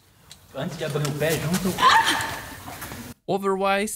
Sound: scream

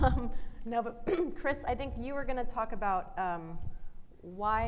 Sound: clears throat

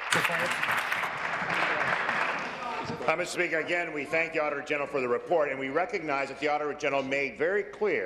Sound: applause

